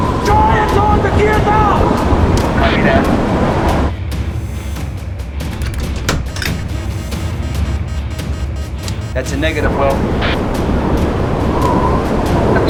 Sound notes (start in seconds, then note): 2.4 daniel on radio; 7.4 beeping